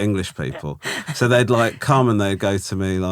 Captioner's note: laughing